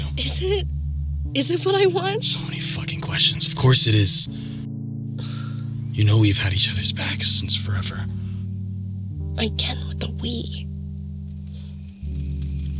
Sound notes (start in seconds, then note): 4.8 Turtledove scoffs